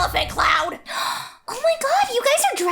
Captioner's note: gasp